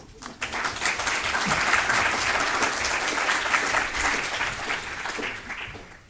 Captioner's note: applauding